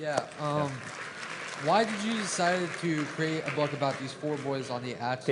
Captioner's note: applause